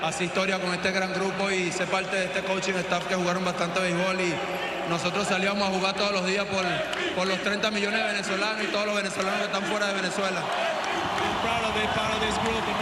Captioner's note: speaking spanish